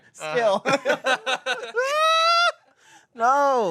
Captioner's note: everyone laughs